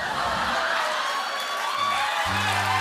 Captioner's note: cheers and applause; sad tuba plays, cymbal crash